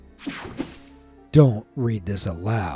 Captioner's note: screen whooshing